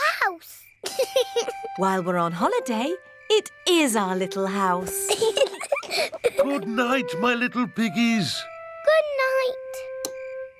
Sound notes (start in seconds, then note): 0.8 george laughs; 4.8 both laugh